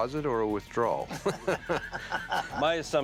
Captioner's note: laughteter